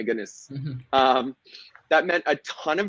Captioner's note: laughing